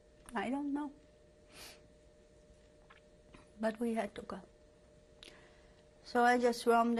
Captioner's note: pauses for 3 seconds